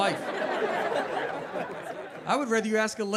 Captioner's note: audience laughing